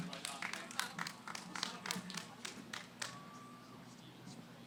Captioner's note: applause; background conversations